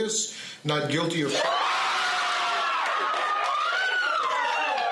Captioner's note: screaming and cheering